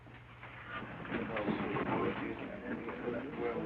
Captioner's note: crowd murmuring